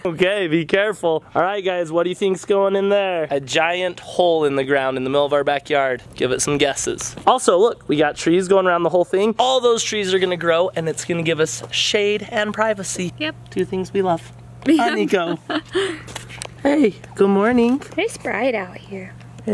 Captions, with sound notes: Okay, be careful. All right guys, what do you think is going in there? A giant hole in the ground in the middle of our backyard, give it some guesses. Also, look, we got trees going around the whole thing. All those trees are gonna grow and it's gonna give us shade and privacy. - Yup. - Two things we love. (laughs) Huh, Niko. Hey, good morning. - It's bright out here.